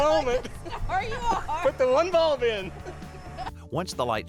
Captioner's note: both laughing